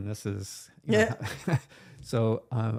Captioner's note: both laughing